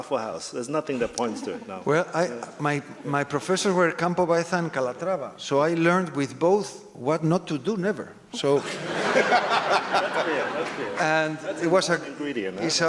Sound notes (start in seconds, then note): 8.4 laugh